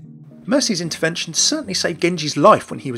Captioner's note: voiceover